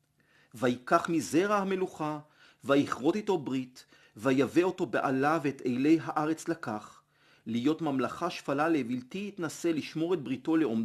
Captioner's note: Hebrew